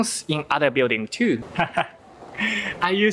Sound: laugh

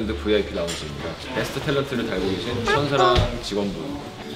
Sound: patting

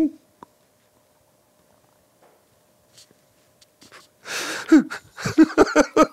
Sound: dramatic crying

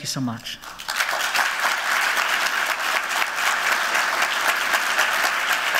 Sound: applauding

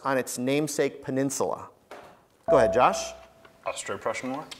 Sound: buzzer beeps

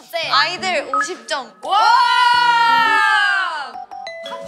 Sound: exclaiming

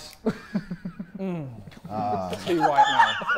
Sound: Sidemen laughing

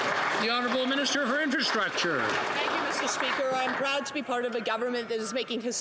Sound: some Applause

